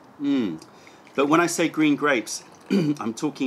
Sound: sips tea

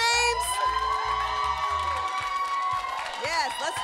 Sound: audience cheers

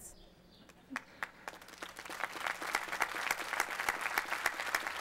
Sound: applause

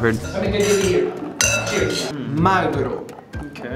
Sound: glasses clinking; Italian

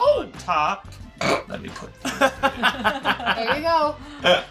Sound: laughing

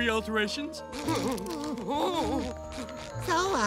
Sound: panicked whimpering

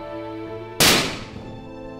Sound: gunshot

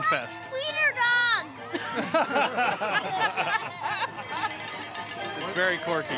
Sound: crowd laughs

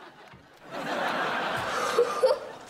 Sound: laughing

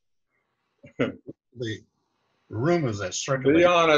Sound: laughs

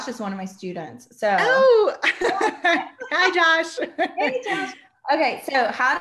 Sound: laughs

